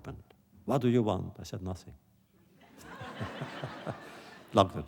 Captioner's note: laughter